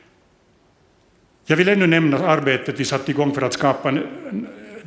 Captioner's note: speaks Swedish